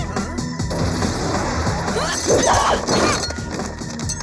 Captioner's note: air sputtering; shouting; suspenseful music